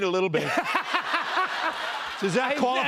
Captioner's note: laughter